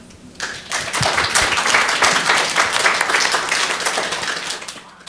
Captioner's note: audience applauding